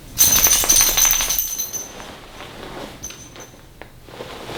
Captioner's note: keys clicking